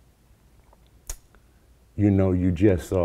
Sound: lips clicking

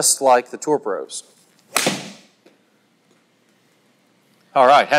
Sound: club smacks golf ball

